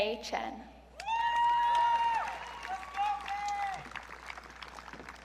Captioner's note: audience cheering